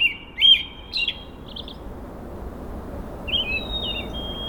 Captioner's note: train rustling